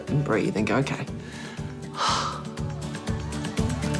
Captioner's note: exhales deeply